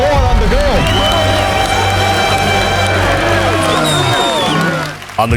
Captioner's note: applause